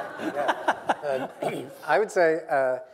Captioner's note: laughter